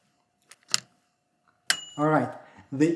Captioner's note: bell ringing